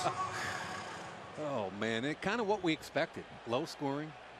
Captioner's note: chuckles